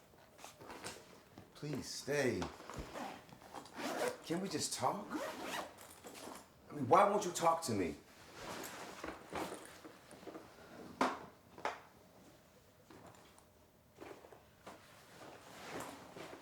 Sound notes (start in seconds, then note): 3.6 zipper zips; 8.2 luggage rustles